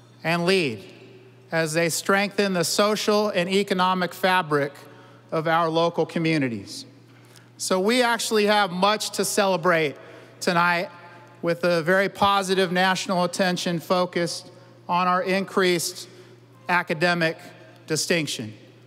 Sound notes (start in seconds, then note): none